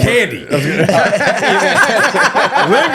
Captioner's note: all laughing